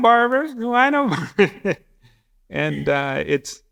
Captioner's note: laughs